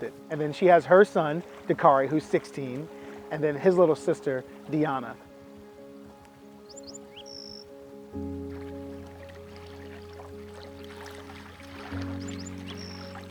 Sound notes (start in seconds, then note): 6.6 bird chirping; 6.8 serene music